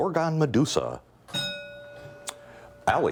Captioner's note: bell ringing